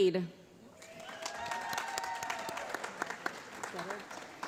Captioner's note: applause